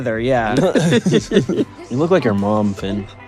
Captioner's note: everyone laughs